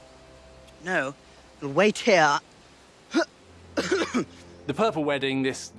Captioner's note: COUGHlNG